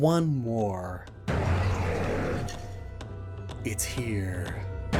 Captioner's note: roaring moon cry